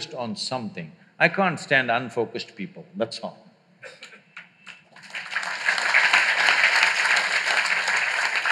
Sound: applause

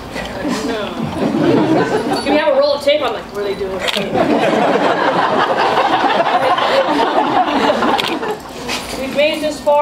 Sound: people laughing

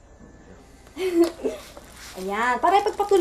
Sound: giggles

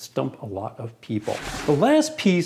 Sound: sliding

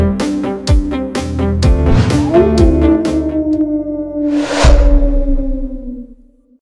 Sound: howl

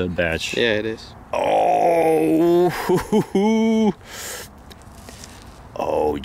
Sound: laughs

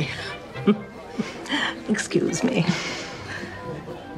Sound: chuckles

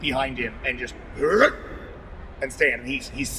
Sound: grunts enthusiastically

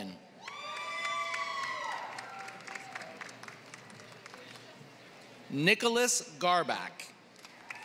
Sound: applause; applause

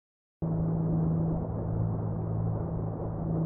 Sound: none

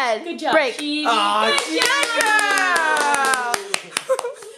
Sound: cheering

